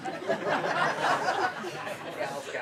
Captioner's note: laughter